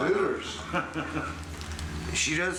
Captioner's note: laughing